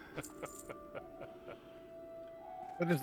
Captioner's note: laughter